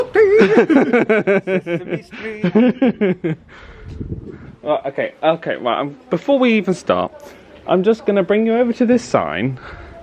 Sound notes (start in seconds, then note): 0.0 laughs